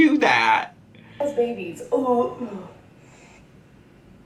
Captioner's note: gags